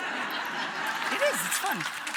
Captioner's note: audience laughs